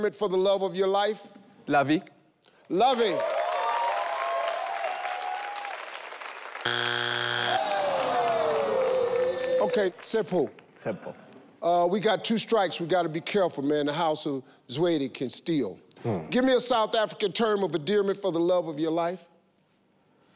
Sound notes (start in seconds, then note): 6.6 board buzzes; 6.8 audience groans